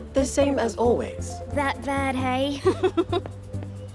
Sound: giggles

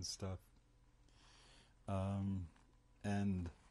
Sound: pauses for 3 seconds

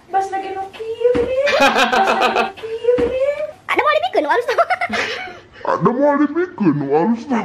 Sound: laughs

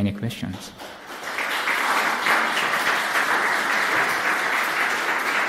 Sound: audience applause

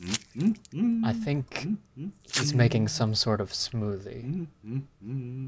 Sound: humming; humming

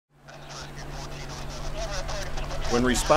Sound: radio Chatter

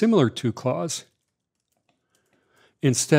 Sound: keyboard typing

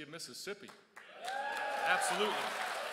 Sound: crowd cheers

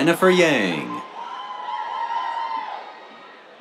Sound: cheers

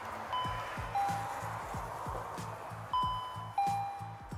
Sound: doorbell chiming

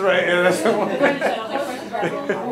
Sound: laugh

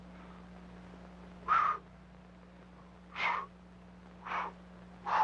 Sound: Roy blowing heavily

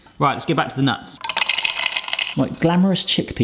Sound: hazelnuts clanking

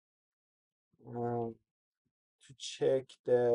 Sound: pause

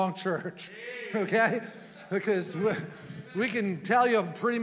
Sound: chuckling

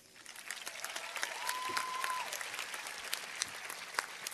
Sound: cheers and applause

